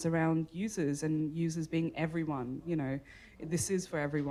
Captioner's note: none